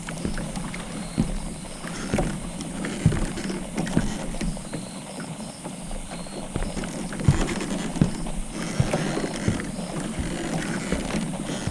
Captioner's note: Listener and Alastor stepping into creaky wooden rowboat fx